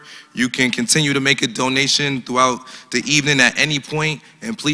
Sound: none

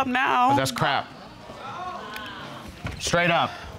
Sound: audience exclaiming

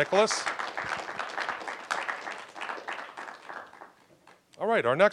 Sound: applause

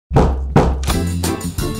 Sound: knock, knock

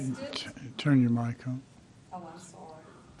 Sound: off mic

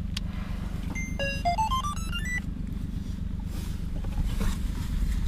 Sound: drone beeping

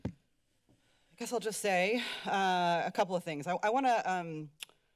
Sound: exhales

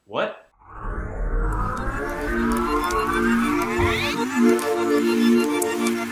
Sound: rewind sound effects

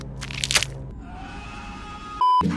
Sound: distant, panicked screaming

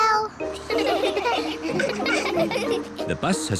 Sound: all giggle

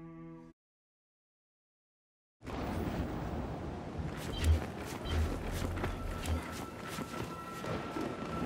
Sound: thunder rumbling

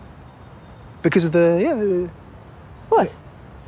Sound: wavering

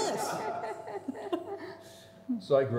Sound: chuckling

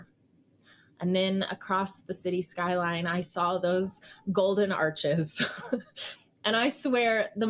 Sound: chuckles

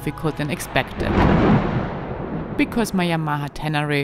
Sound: thunder crashing

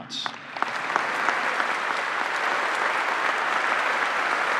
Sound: applause

